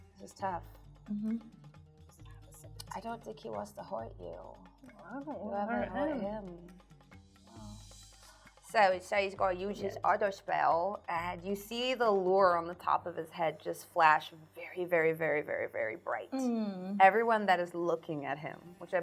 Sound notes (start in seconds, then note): none